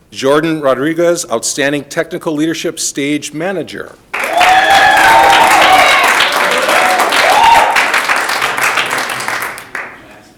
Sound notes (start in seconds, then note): 4.1 audience applauding